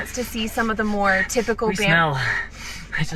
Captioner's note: sniffs around